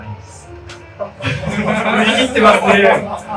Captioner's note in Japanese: 会場：笑